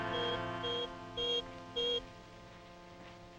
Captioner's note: screen beeps